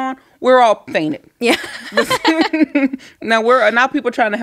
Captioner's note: both laughing